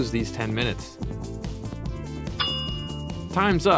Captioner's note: timer dings